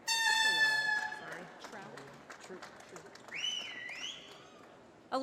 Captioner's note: applause